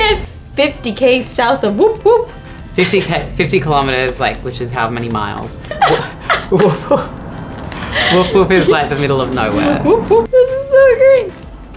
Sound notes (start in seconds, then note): 6.6 laughing; 7.2 laughs